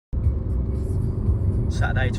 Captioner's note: car radio